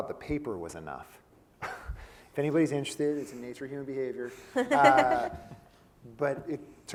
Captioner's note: laugh